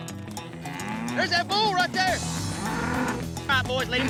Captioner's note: bull grunting